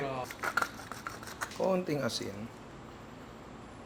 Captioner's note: crackling sound of pepper